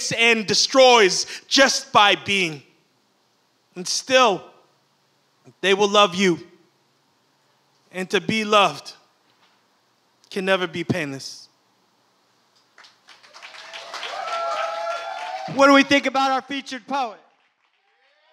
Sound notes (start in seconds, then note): 12.8 audience applauds and cheers